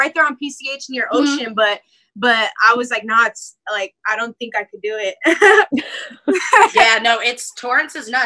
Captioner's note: laughs